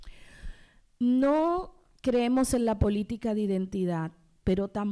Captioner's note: speaking spanish